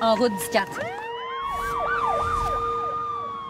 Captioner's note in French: sirène